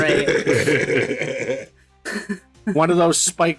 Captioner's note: laughter